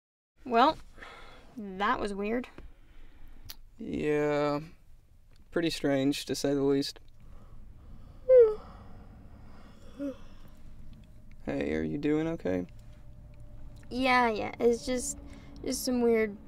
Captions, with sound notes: Well, that was weird. Yeah, pretty strange to say the least. (yawns) Hey, are you doing okay? Yeah, yeah, it's just- it's some weird